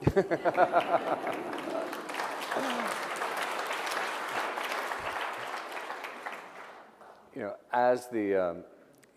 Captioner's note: applause